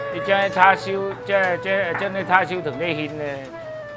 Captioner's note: speaking Cantonese